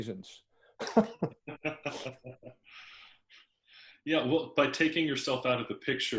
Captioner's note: laugh